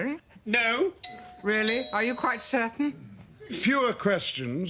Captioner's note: doorbell